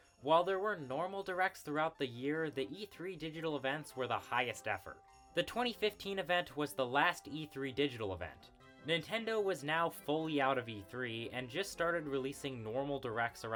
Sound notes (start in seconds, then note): none